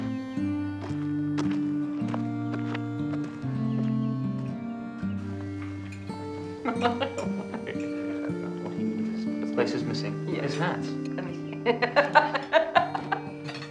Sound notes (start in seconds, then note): 0.2 soft music; 5.3 cutlery tinkling; 6.5 Martha laughing; 11.2 laughing